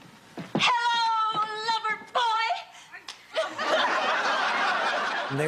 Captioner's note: laughs